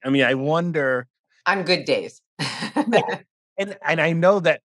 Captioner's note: laughter